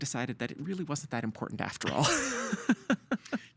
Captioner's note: laughing